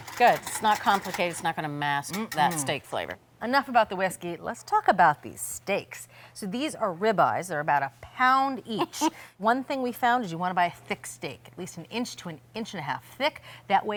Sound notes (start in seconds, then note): 8.7 laughing